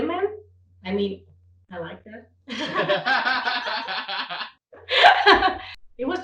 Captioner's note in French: rires